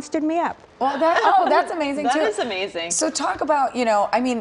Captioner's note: laughter